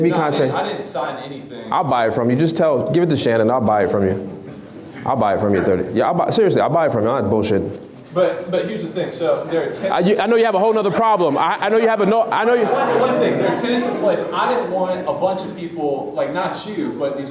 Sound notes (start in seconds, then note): 10.5 laughs